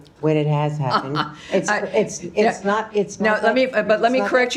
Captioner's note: laughter